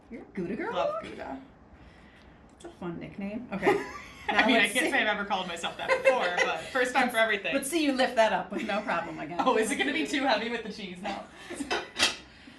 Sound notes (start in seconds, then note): 4.3 laughs; 12.0 laughs